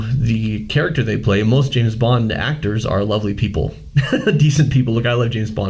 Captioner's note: laughing